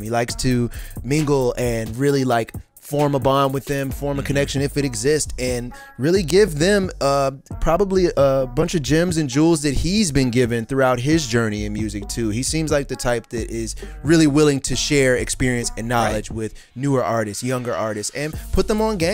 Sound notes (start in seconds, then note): none